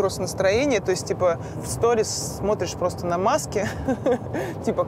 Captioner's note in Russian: смеётся